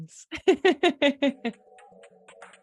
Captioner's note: laughs